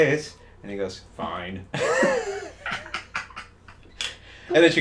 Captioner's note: both laughing